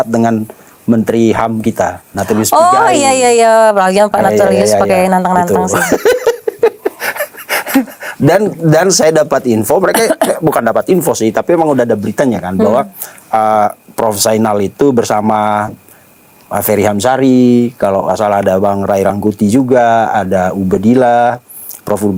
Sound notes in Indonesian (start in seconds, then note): 5.6 tertawa